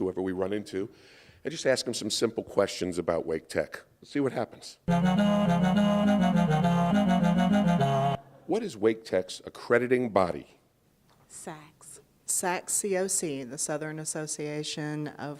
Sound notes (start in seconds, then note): none